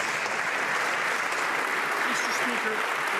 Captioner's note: some Applause